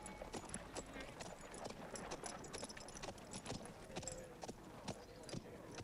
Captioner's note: townsfolk chattering